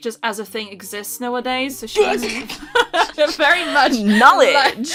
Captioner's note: laughter